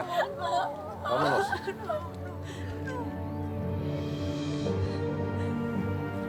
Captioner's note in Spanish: Sollozos